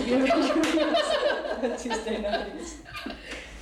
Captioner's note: laughter